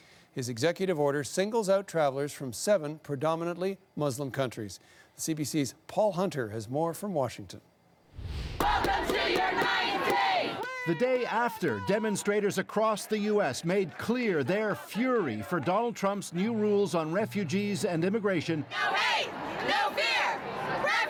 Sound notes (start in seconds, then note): 16.1 chanting